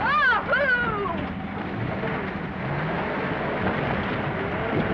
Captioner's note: engine rumbling